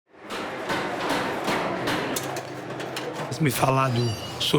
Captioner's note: garage ambience